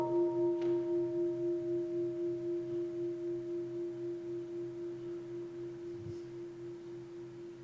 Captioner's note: bell